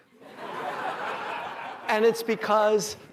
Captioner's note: laughter